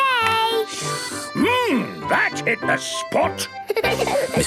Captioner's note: slurping; giggling